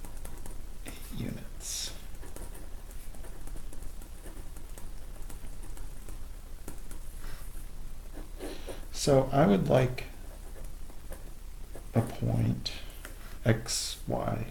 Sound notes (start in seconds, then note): 0.8 writing Sounds